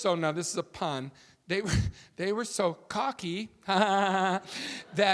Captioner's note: chuckles